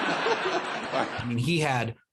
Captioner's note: laughter